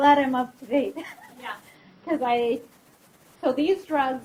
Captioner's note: laughs